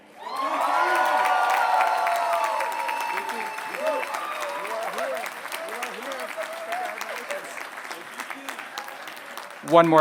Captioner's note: applause